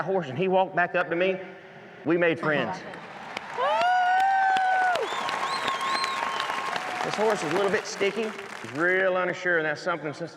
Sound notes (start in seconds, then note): 2.8 crowd claps, cheers